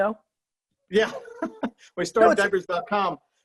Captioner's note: laughing